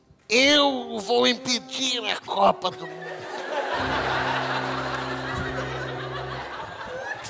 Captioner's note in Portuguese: voz de velho